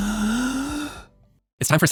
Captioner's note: deep breath